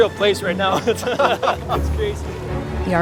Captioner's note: laughing